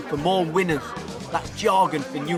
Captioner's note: background chattering